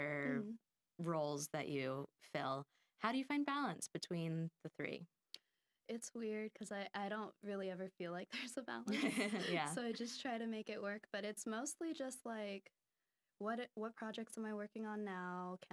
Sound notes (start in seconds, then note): 8.9 laughing